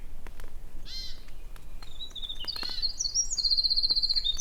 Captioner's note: birds chirping